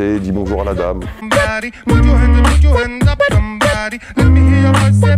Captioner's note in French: beatbox